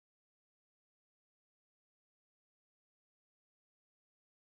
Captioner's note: none